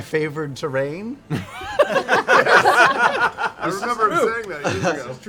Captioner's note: laughter